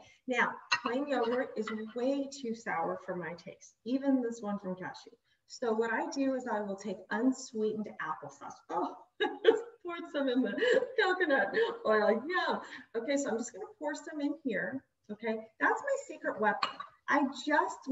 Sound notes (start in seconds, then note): 9.2 laughs